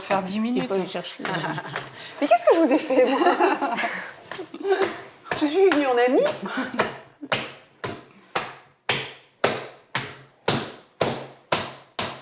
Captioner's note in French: rires